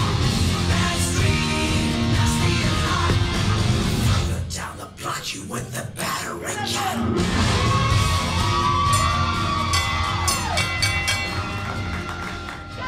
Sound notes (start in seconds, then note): 7.2 audience yelling; 8.8 bell ringing